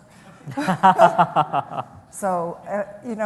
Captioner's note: laughter